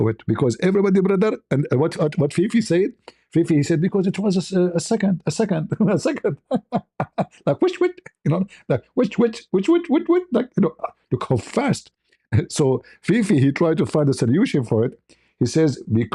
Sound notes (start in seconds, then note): 5.6 ketawa